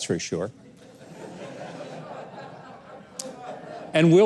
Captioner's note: audience laughs